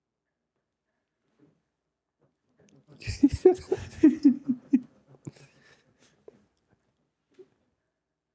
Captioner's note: laughing